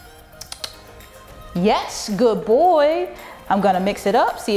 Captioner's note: clicks tongue